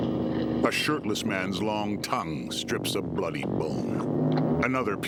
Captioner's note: otherworldly music; retching and chomping